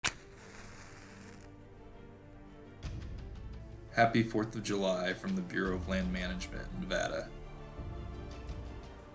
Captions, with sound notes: [match lighting] Happy 4th of July from the Bureau of Land Management Nevada